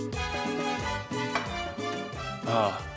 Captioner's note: plate clinks